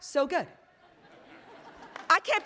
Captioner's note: attendees laughing